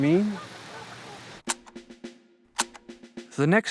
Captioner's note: camera shutter clicks